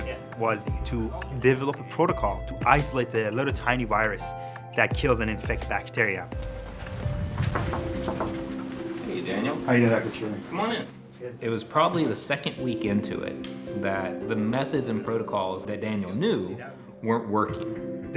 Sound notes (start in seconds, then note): 6.4 knocking